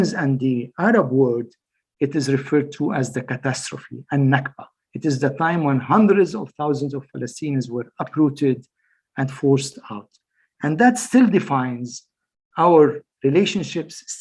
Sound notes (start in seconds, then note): 3.8 speaks foreign language